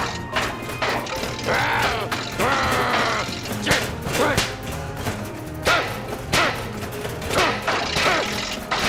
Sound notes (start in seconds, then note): 0.1 heater sputtering; 2.4 growls; 4.0 shouting; 5.6 shovel clangs